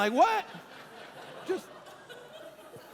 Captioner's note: congregation laughing